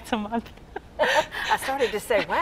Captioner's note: chuckles; laughing